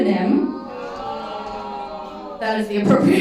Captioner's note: crowd booing